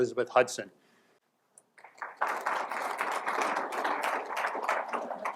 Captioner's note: applause